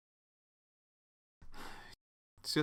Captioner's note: sigh